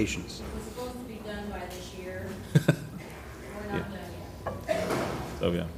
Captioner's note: laugh